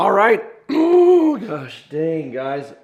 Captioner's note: clears throat